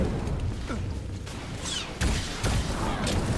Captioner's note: gun shots